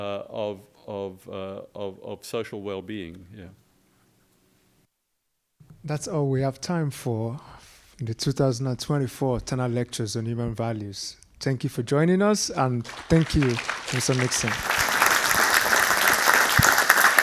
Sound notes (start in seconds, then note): 12.8 audience applauds